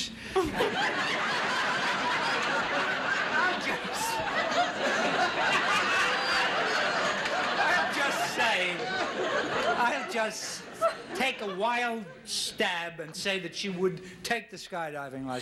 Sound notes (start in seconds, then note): 0.1 audience laughing; 5.2 laughing